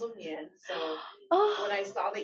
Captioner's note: soft gasp